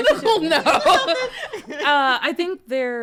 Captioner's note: laughs